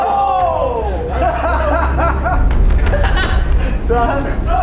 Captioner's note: laughter